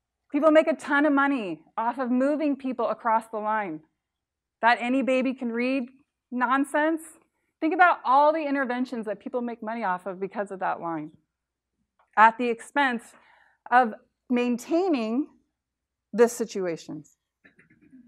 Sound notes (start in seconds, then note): none